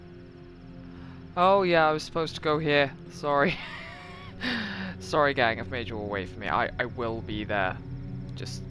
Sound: laughs

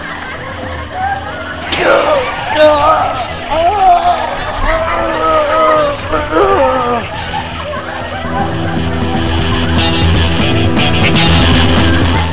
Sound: laughter; slurping

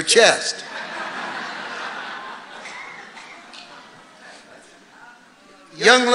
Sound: congregation laughing

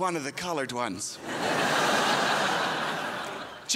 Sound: crowd laughs

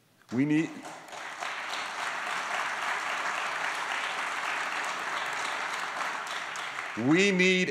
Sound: applause

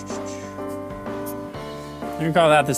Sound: marker scratching

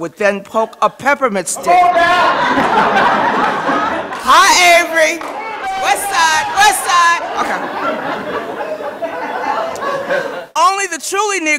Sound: laughter

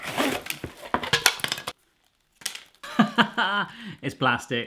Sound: laughing

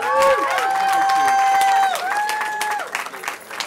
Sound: cheering

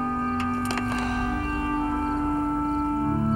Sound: sighs

